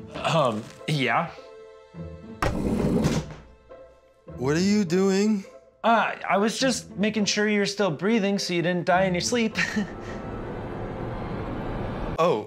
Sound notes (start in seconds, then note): 2.6 heavy sliding noise; 10.5 suspenseful music